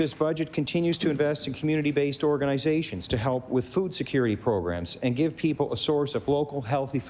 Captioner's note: applause